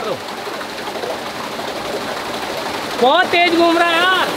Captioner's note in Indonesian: Suara turbin